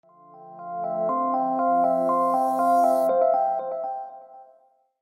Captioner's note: reverberating electronic tones